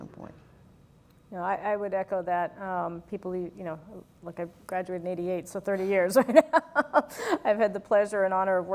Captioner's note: laugh